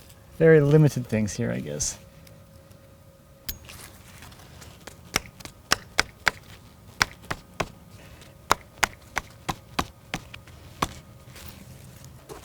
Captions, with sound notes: Very limited things here, I guess. (screwdriver clanking)